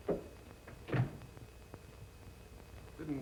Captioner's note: door closes